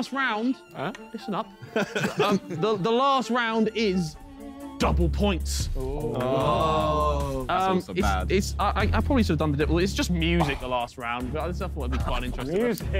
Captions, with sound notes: - Listen up. [laughs happily] The last round is double points. I probably should have done the different. It's just music the last round. But I still thought it'd be quite interesting music.